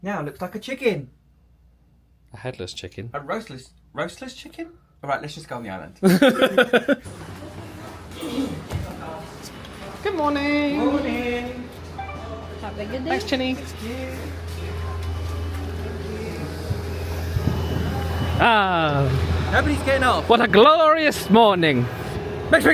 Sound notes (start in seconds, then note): 6.0 laughing; 8.0 passenger coughs; 8.3 crowd chattering